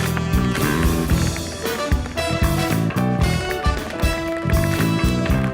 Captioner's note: tapping